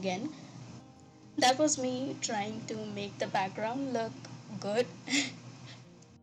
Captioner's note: laughs